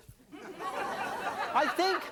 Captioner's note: audience laughing